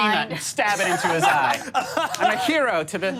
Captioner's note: laughing